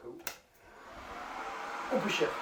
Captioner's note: fan noise